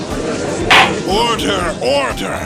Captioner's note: gallery chattering!; gavel slams!